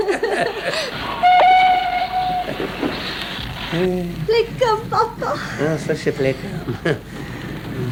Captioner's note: sound of a locomotive